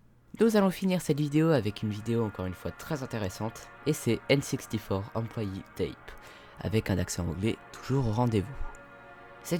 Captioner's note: with a perfect english accent